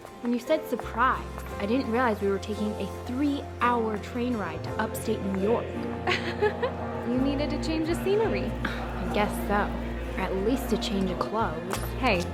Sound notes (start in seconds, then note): 5.8 laughs